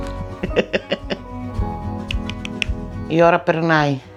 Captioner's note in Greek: γέλια